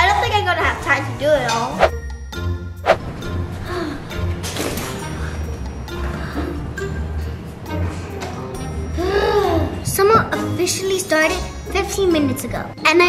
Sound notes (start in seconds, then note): 3.8 sigh